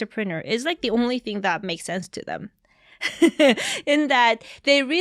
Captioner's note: chuckles